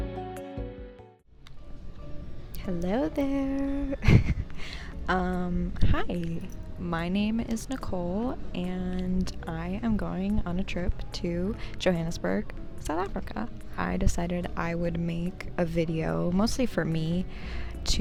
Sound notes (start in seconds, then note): 4.0 chuckles softly